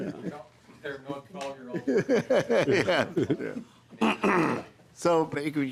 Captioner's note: laughing